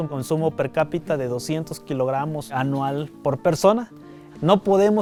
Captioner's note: speaking in foreign language